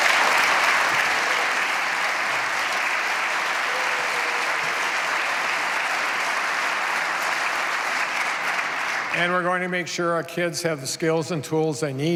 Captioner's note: applause